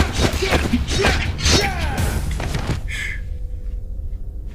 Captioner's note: thudding